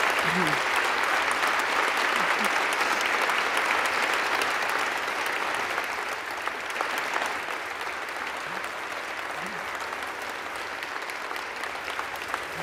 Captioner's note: applause